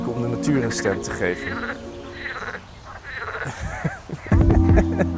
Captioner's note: duck quacks